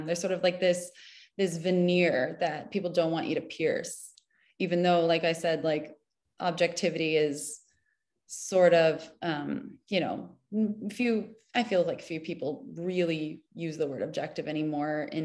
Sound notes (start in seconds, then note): none